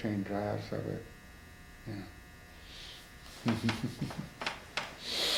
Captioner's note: laughs